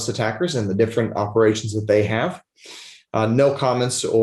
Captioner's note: sniffles